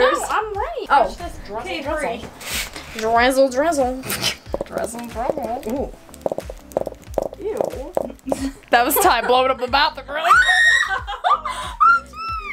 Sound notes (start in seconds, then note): 4.0 bottle gurgling; 10.2 screaming